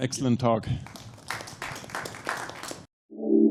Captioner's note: applause